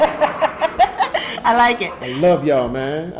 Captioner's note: audience laughing; laughs